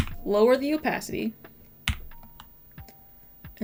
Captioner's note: none